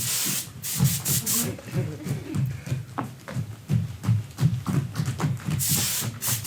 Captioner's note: spray hisses